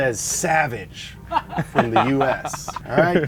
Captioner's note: everyone laughs